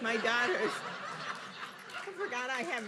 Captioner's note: audience laughing